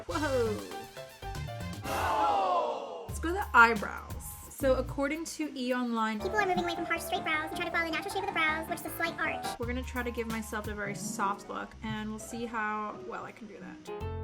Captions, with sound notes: Whoa! (whoa-ing) Let's go to eyebrows. So according to E! Online, people are moving away from harsh, straight brows and trying to follow the natural shape of the brows with a slight arch. We're gonna try to give myself a very soft look and we'll see how well I can do that.